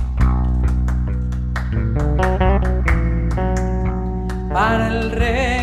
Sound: claps

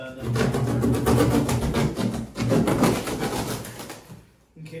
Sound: cutting box loudly

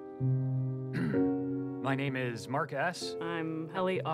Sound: clears throat

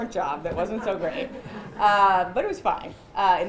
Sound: chuckling

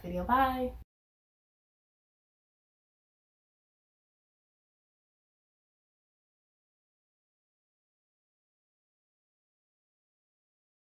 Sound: silence

